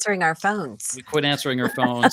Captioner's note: laughs